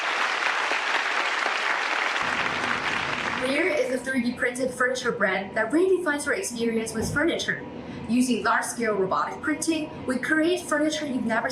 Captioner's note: applause